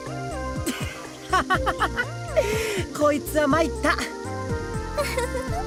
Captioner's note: laugh; giggle